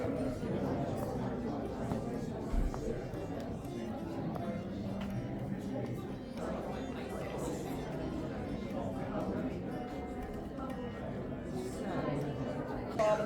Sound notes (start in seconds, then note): 0.0 crowd chattering